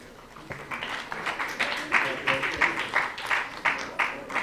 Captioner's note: applause